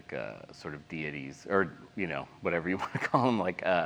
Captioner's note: laughs